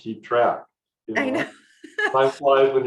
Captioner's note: laughs